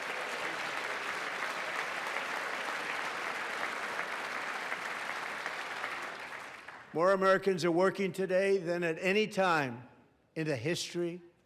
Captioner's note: applause